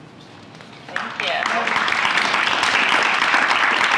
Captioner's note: applause